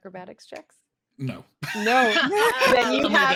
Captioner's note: laughs